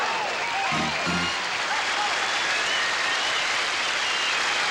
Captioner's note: cheering